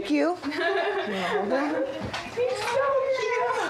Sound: laughter

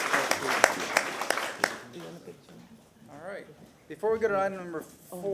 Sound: applause

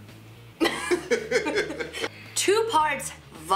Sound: laughing

